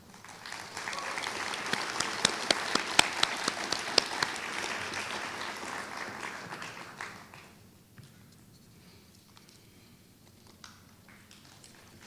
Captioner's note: applause